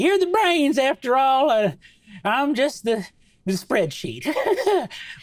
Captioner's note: laughs